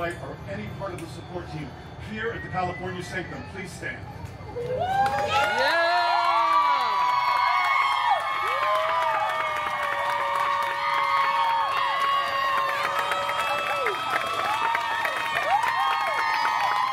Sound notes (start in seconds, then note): 4.4 guests cheering and applauding